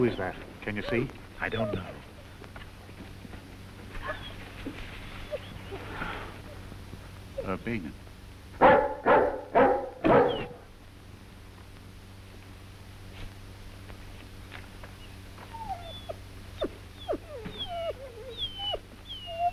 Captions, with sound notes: Who is that? Can you see? - I don't know. - Urbenin. (dogs barking)